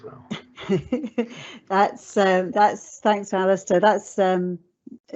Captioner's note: laughs